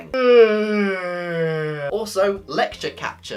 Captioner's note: yawn